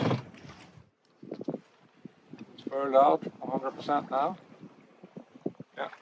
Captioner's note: wind and waves